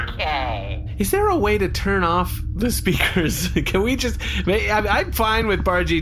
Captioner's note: laughing